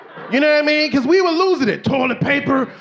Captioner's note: audience laughing